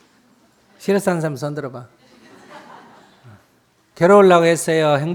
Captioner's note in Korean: 청중 웃음